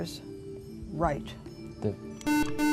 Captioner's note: buzzer